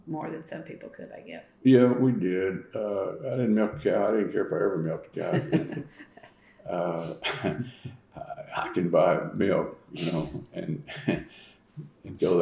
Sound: laughter

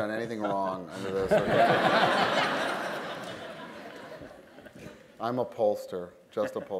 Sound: laughter

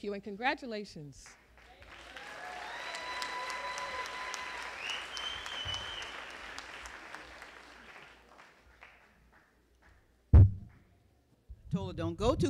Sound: applause

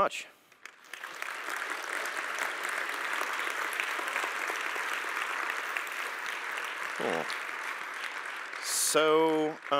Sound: applause

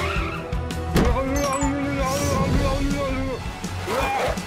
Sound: Launchpad blubbering

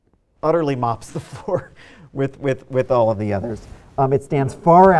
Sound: laughs

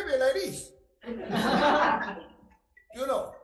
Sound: all laugh

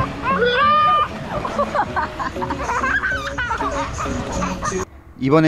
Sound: laughing

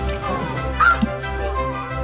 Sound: bright music; yelling; yelping; bright music

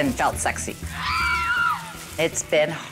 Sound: people screaming

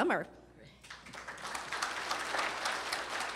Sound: applause

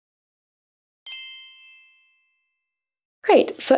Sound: chime rings

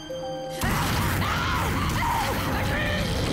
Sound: screaming uncontrollably

